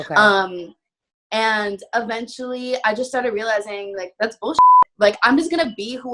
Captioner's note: beep